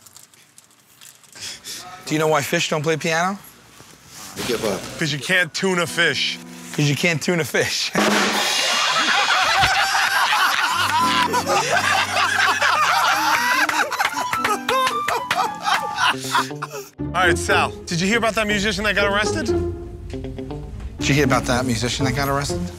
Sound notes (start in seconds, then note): 7.3 rim shot; 8.4 laughter